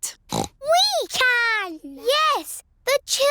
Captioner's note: snorts